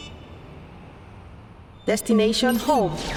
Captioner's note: robot voice